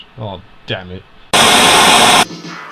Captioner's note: white noise